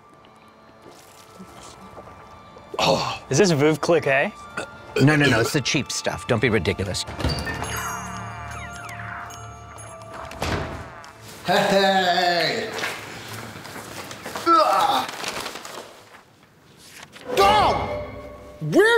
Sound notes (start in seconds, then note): 4.5 burping; 6.2 door jingle; 7.4 videogame noises; 14.4 groans